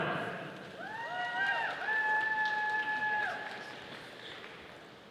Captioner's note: audience applauding